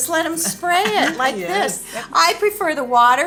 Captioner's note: laughs